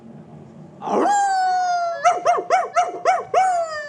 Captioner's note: howling